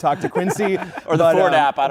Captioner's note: laughter